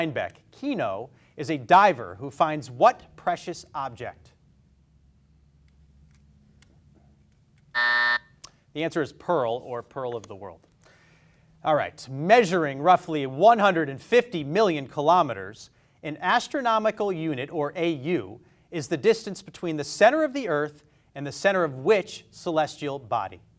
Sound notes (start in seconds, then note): 7.7 buzzer buzzes